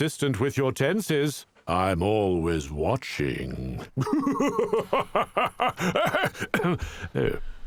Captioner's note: laughing maniacally